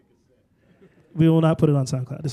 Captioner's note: laughter